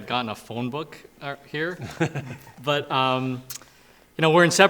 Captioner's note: laughs